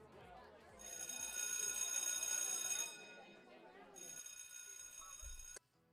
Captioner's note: school bell rings